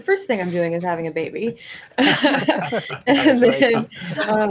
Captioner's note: laughter